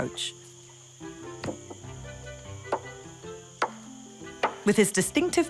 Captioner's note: coconut hitting wood